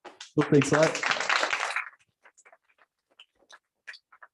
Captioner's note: applause